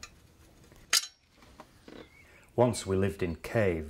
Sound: metal clanking

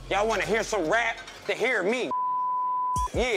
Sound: beep

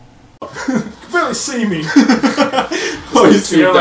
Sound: laughs

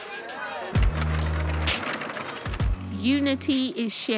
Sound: boards vibrating

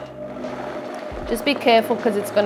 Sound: blender whizzes

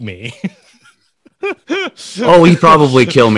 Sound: laughing

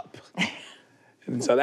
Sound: she laughs

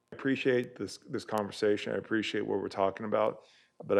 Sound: audio cutting in and out

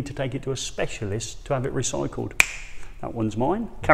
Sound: clicks fingers

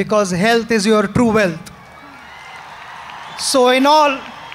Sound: applause

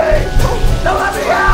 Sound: banging

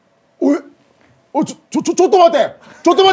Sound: in Japanese

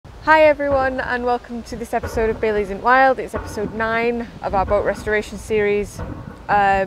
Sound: loud Clanging in the Background

